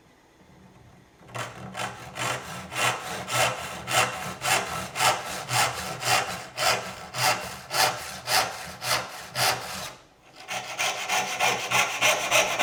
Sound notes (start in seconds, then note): 1.2 saw rasping